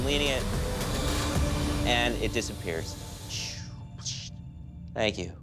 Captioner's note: sighs